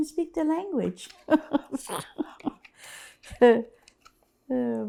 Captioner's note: laughs